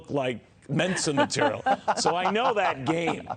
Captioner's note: laughter